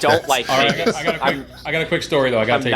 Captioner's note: laughs